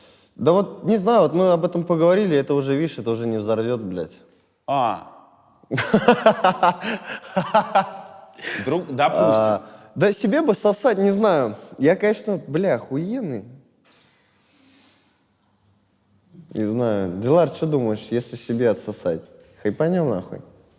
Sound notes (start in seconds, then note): 5.8 laughs